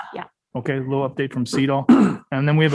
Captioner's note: attendee clearing throat